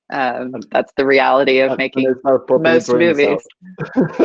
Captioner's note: laughing